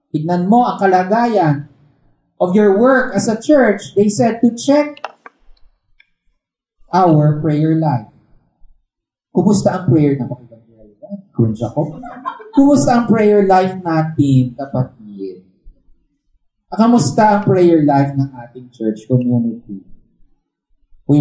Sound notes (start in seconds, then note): 11.7 laughter